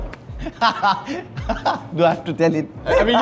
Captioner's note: laughs